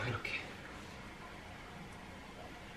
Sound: sipping

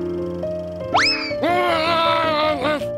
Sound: frustrated yell

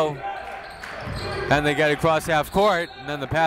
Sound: whistle

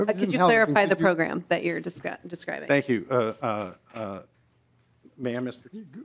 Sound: laughing

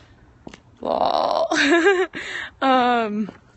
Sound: laughs

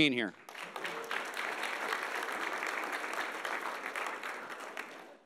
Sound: audience applauding

